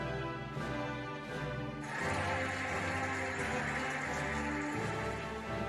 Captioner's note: cheering and applauding